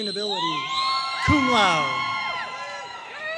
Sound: audience cheering and applauding

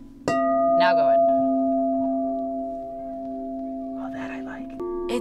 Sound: bowl chiming; whispers

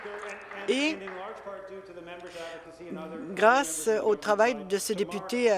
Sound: some Applause

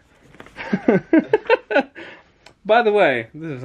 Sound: laughs

